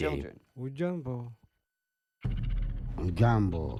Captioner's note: man speaking native language in high-pitched voice; man speaking native language in low-pitched voice